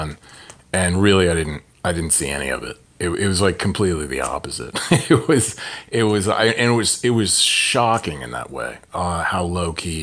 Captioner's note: laughter